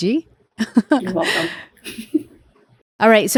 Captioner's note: chuckles